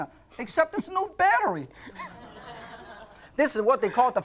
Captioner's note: laughs